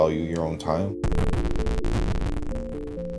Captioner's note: video game sounds